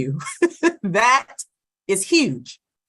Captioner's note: laugh